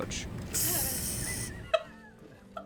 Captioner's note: cockroach hisses; laughing